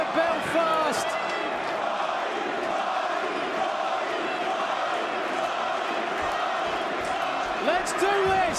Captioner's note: crowd cheering